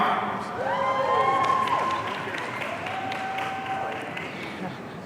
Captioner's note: audience cheering